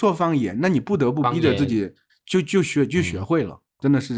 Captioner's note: dialect